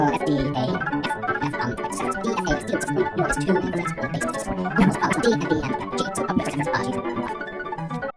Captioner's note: accellerates into high-speed gibberish…